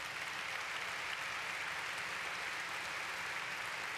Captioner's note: applause